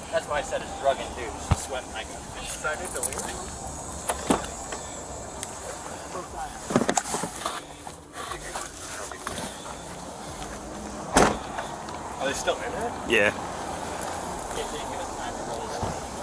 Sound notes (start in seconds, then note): 4.0 door clicks open; 11.1 door clicks closed